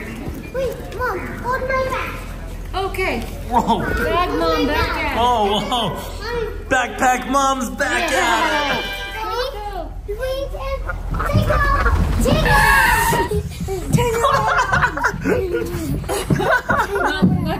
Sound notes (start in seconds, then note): 11.8 kids shout; 14.2 laughs